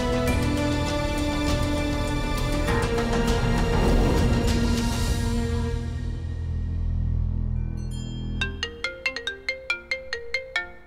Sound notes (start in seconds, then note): 8.5 Phone ringing